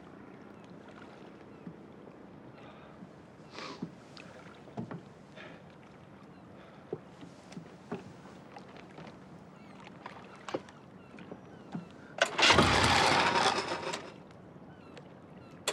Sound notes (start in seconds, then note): 3.5 sniffling